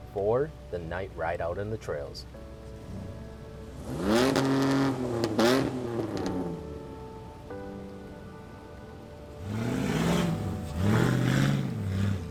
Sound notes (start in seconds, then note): 3.6 engine revving